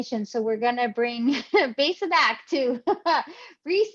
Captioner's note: chuckles